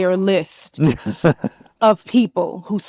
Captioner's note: laughs